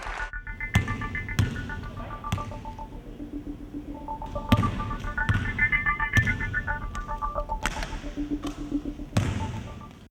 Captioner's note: basketball bouncing noise